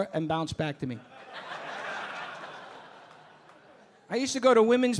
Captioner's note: audience laughing